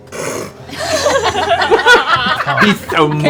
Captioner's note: laughter